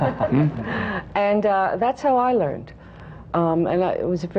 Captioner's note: laughter